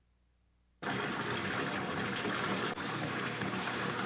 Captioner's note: water pouring